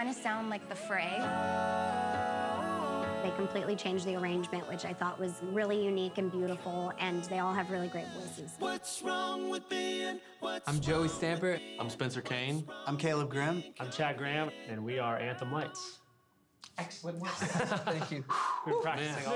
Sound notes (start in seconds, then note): 0.2 piano playing; 1.7 all vocalizing